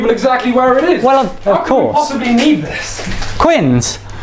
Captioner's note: ripping intensifies